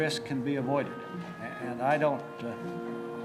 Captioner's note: none